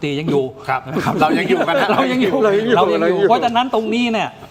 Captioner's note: laughs